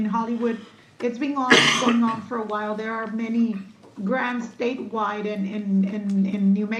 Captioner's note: clears throat